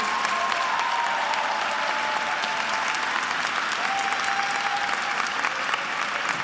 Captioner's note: attendees applauding and cheering